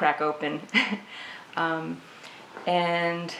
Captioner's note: laughs